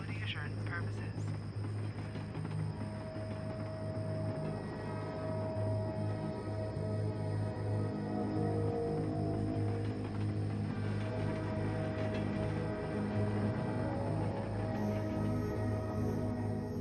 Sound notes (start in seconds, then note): 5.7 ominous music; 12.0 distant train horn